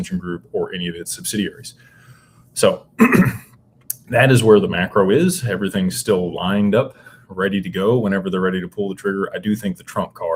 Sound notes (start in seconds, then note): 3.0 clears throat and cough